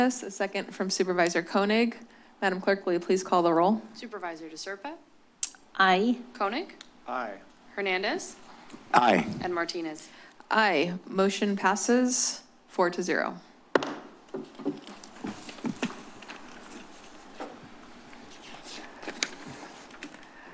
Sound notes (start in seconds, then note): 13.7 gavel tap; 14.4 paper rustles